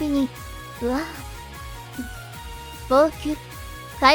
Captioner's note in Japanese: 号泣